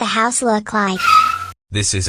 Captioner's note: tires squeal